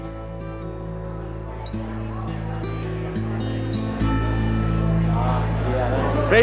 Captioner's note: clatter and casino noise, people, thrum of nightlife